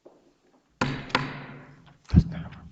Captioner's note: gavel clanking